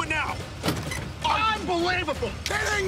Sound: handle clunking

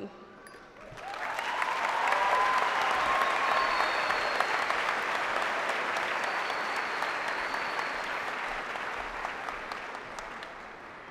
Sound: applause

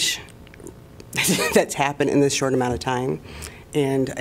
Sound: laughter

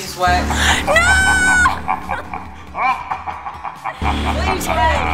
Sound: evil laughing

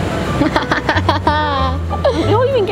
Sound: laughs

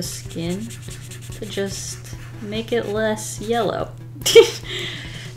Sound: laughs

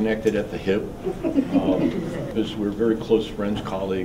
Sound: laughing

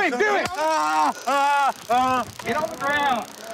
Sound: screaming

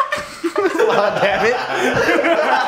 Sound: laughs

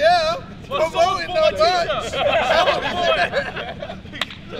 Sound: laughter

